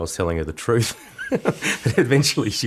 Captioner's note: laughs